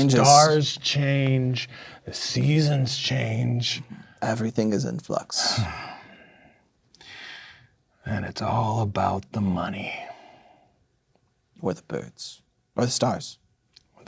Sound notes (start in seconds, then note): 5.4 sighs in character